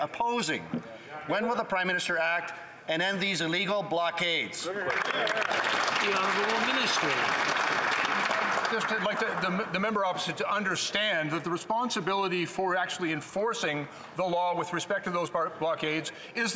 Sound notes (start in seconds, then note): 7.7 some Applause